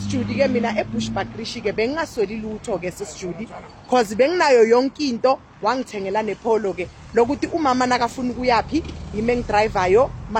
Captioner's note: car